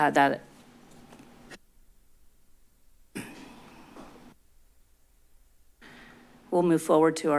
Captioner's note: silence